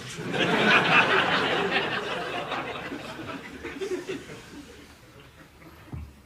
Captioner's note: laughter